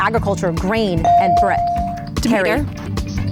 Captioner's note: bell dings